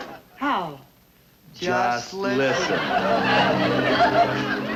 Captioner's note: both saying together